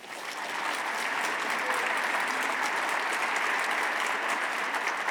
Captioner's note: audience applauding